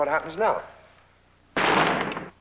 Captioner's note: bang